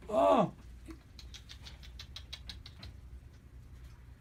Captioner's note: kisses